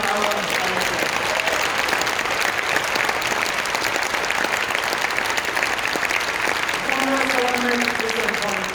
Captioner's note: applause